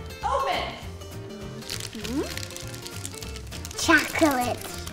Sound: wrappers crinkling

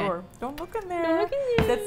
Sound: mocking

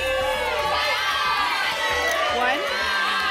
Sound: audience shouting numbers

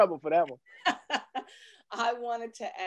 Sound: laughter

